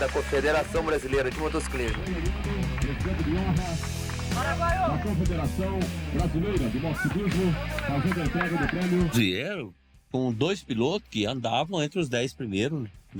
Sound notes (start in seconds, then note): 2.6 muffled announcement